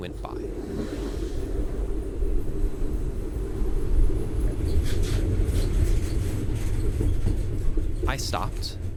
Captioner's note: train Passing